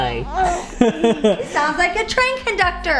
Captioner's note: laughs